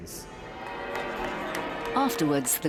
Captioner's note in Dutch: publiek juicht; klokken luiden